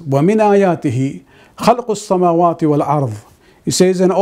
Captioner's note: arabic